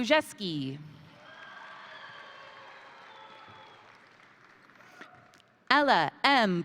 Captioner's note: crowd cheering; crowd applauding